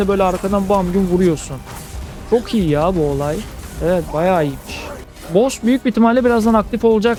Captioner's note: bam